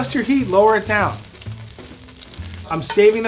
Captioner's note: meatballs sizzling